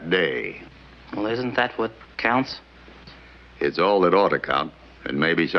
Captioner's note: none